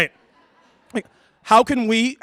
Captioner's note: laughter